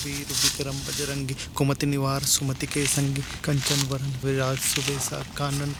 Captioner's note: murmurming holy sermon